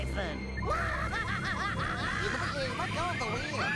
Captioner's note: screaming